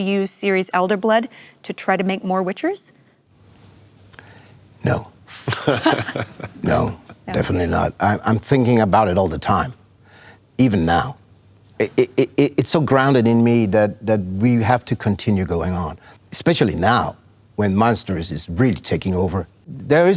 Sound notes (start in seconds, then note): 5.4 laughter